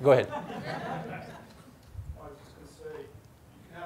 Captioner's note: audience laughs